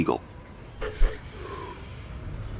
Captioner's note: exhales smoke